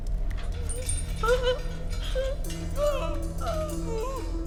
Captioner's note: woman sobs